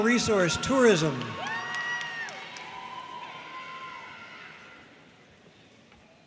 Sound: audience cheering and applauding

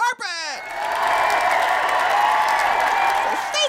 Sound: cheer/applause

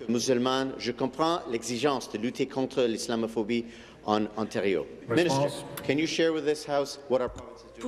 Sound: speaking in French

